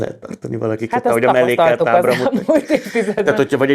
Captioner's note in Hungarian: nevetés